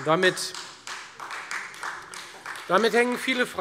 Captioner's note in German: Beifall Freie Demokraten